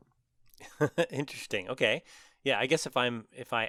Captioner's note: laugh